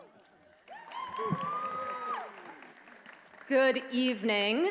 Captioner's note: attendees cheering